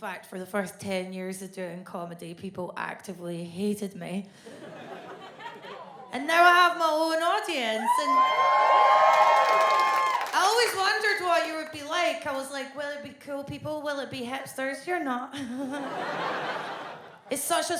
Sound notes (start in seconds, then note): 4.5 audience laughs; 7.7 audience cheers; 15.5 audience laughs